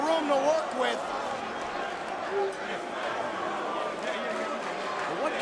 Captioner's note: crowd chattering